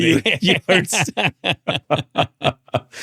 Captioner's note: laughing